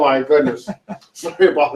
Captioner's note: laughs